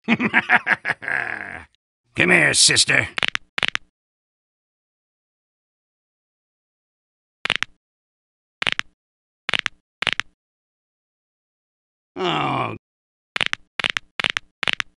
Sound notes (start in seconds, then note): 0.0 chuckle; 2.8 cracks knuckles